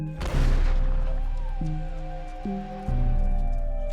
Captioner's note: gun firing